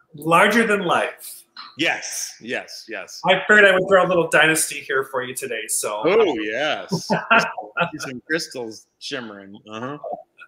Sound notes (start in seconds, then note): 6.6 laughing